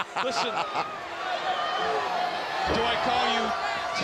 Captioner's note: crowd cheering